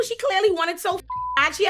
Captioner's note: beep